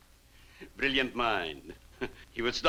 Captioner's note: chuckles